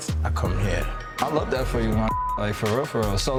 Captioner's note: beep